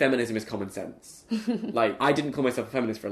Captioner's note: laughs